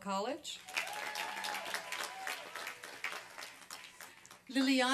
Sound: applause and cheering

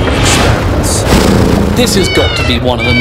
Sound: cat purrs

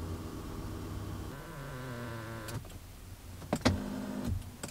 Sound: whirring; squeaking; whirring

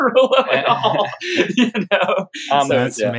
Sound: laughter

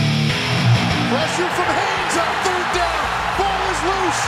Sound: rock music; voiceover

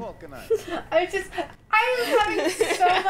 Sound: laughing

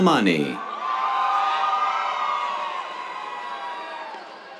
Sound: cheers

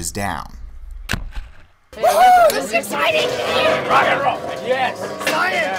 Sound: sound of crash

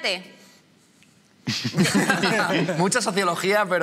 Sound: laughter

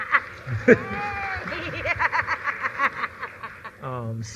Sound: chuckles; applause

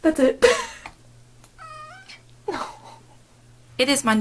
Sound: a yawning meow

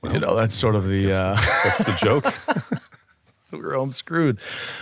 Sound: laughs

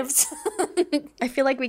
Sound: laughs

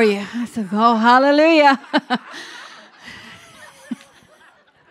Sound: chuckles

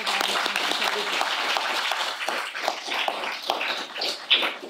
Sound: audience applauding

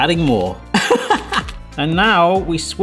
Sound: laughs

